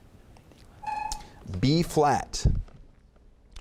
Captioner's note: chimes